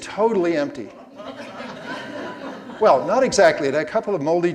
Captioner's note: audience laughing